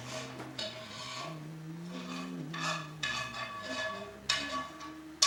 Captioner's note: humming